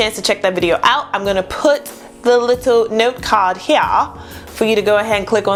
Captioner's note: british accent; normal accent